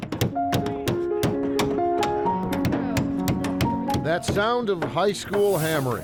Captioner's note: hammers banging